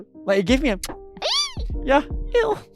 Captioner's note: kiss